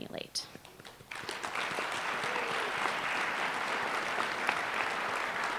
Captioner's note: applause